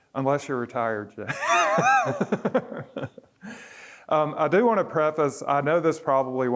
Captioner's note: laughter